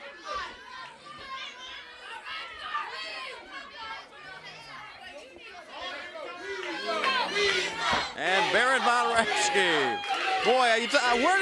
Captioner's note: crowd chatter; crowd cheering